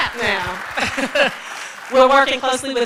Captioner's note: applause